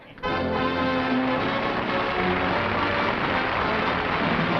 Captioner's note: applause